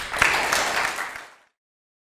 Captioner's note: applause